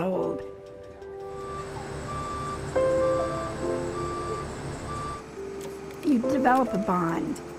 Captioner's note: bus backing up